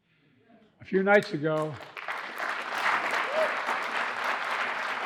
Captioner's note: audience applauding